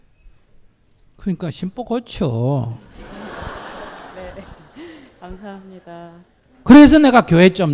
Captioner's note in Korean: 청중 웃음